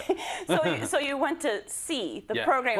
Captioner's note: laugh